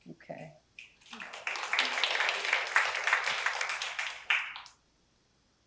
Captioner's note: applause